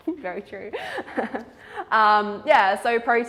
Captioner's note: laughs